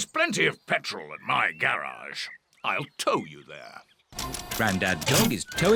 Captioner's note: none